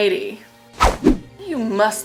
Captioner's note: swiping